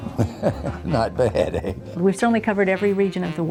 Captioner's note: chuckles